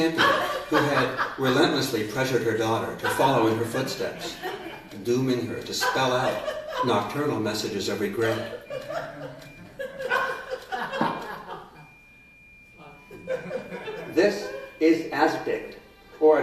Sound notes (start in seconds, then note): 8.1 laughter